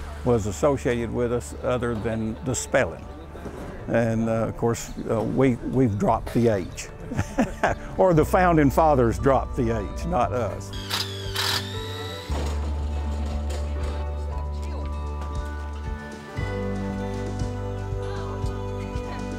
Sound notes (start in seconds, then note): 7.0 laughs; 10.7 drill squeals; 15.4 gentle music